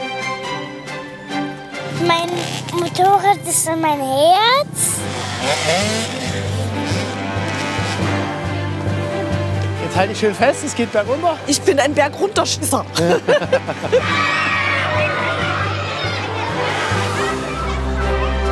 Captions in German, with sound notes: Mein Motorrad ist mein Herz. *Motordröhnen* Halt dich fest, es geht bergrunter. - Ich bin ein Bergrunter-Schisser. *Sie kreischen.*